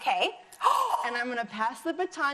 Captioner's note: gasps